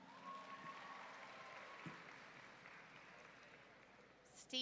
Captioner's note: audience clapping